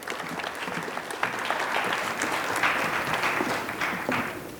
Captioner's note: applause